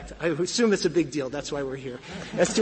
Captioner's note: laughter